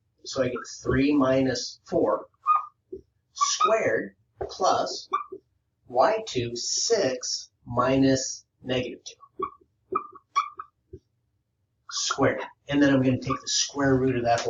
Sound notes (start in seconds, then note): 9.8 marker squeaking